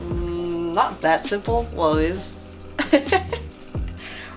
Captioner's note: laughs